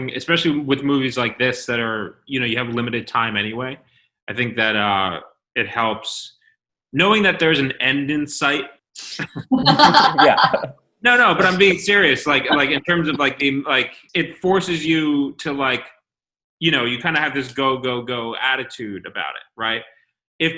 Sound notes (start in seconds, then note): 9.2 laughter